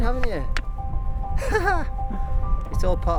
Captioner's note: laughs